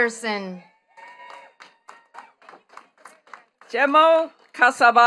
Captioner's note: attendees clapping